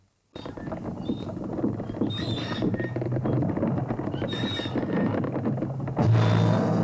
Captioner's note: wood rattling; metal squeaking; suspenseful music